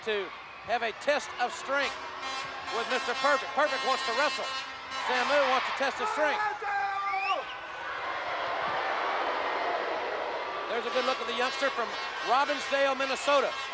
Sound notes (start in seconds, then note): 8.3 audience jeering